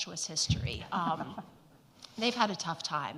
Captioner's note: audience laughs